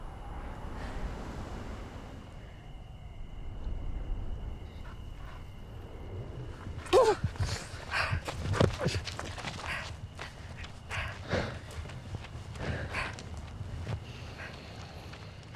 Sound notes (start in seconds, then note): 1.6 cicadas buzzing; 6.9 Miriam grunting